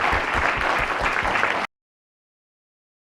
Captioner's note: applause